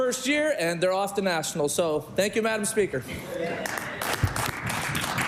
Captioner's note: applause